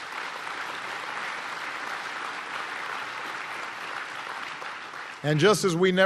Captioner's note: applause